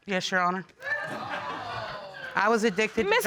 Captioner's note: audience exclaiming